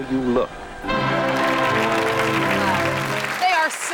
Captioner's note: audience applauds